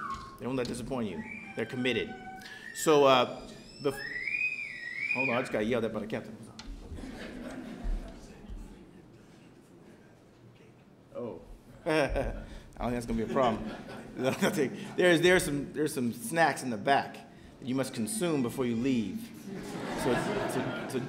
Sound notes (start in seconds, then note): 3.3 sirens wailing; 13.0 chuckling